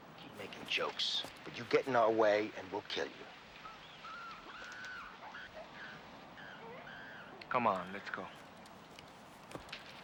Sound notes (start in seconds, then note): 4.5 animals squealing